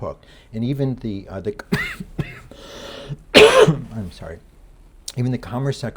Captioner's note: lecturer coughing